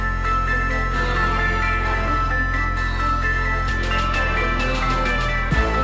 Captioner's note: laughs